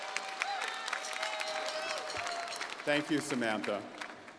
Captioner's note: crowd cheering